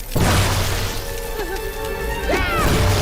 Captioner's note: both yelp